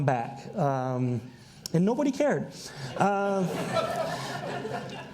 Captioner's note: audience laughs